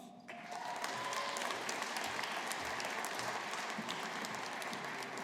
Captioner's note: audience applauding